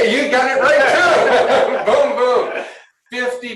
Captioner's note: laughter